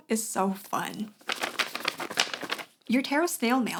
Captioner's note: sounds of waving paper